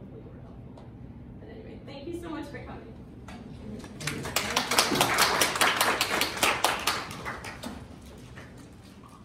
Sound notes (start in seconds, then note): 3.9 applause